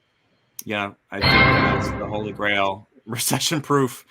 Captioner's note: bell bangs